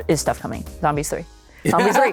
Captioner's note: laughter